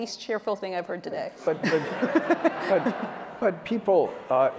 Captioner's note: laughter